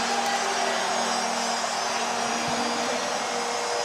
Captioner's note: cheering